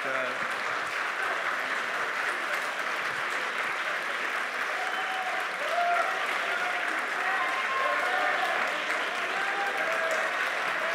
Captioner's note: applause